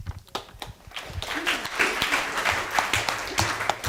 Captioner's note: applause